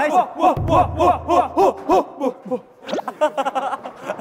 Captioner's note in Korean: 스타카토 날숨